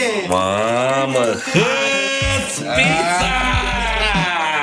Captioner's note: screaming